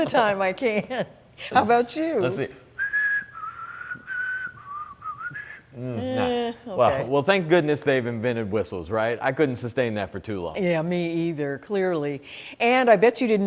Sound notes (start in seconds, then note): 2.7 whistling